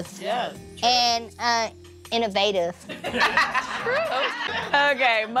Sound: laughter

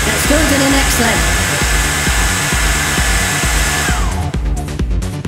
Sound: powerful Air Dryer Noise

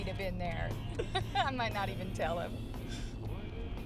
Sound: laughs

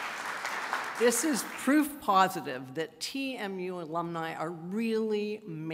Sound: applause

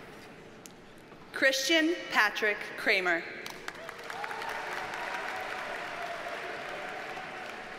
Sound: audience cheers and applauds

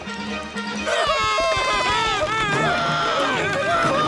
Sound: screaming

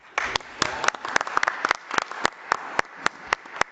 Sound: audience applauds

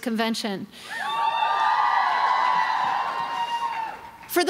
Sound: crowd cheering

